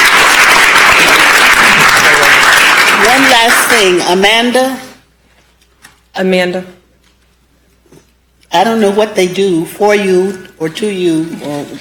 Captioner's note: applause